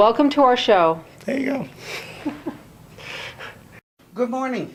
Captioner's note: laughs